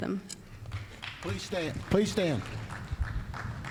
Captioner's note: applause